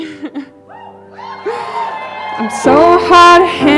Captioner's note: crowd cheering